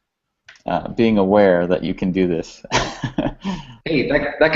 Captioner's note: laughs